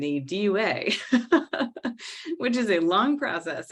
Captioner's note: laughing